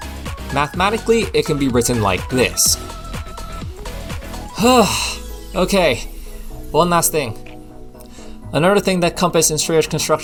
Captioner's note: sigh